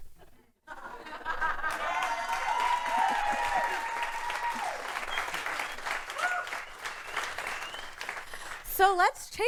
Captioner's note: applause